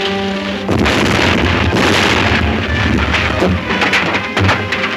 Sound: dynamite booming

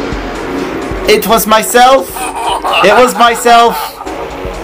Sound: laughs Evilly

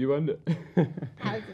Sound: laughs

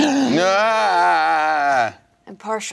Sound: groans

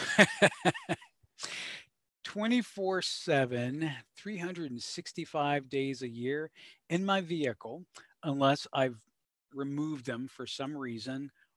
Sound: laughs

